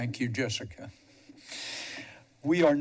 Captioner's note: inhales